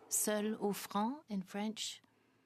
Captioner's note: speaking French